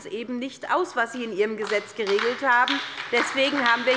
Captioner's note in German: Beifall bei der SPD